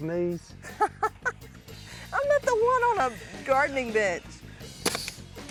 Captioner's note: laughs